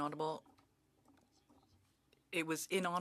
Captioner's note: speaking French